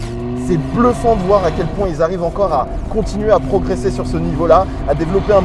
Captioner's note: engine